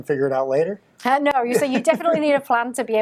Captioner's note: laughing